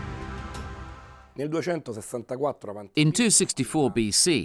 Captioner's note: speaking in foreign language